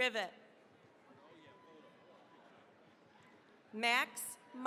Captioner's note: cheering, applause